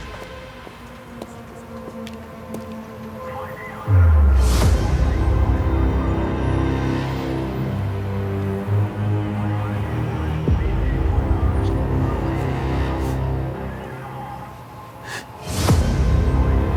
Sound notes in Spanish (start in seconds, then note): 10.3 Sollozo